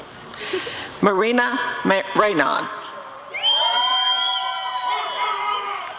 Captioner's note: applause and cheering